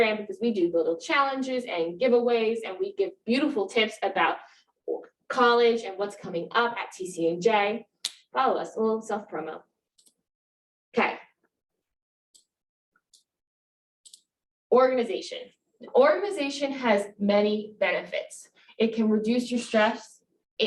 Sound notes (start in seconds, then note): 12.0 mouse clicking